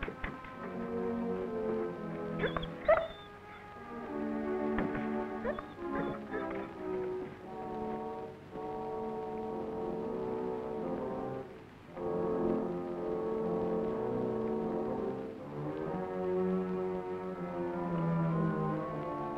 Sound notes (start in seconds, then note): 2.4 Rebel whining